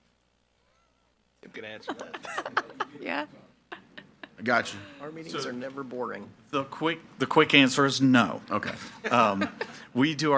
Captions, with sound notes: - I can answer that. (people laughing) I got you. - Our meetings are never boring. - The quick answer is no. - Okay. (people laughing)